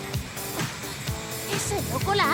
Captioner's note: gasps